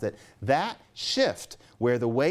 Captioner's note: none